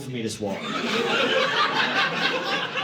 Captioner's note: audience laughing